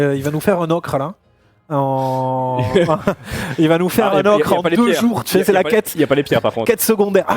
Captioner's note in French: rires